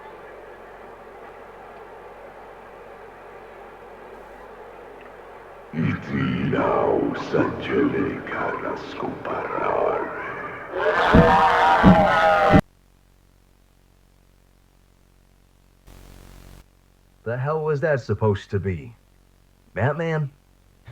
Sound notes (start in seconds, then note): 5.8 ZUCCO chanting in strange language; 10.8 ZUCCO roars and flaps his wings